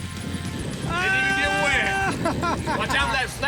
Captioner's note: screaming